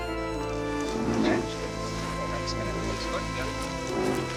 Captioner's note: rhino grunts